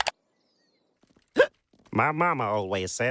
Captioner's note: hiccup